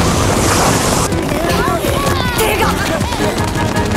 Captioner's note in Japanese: 一同のうめき声